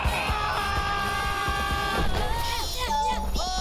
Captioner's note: everyone screams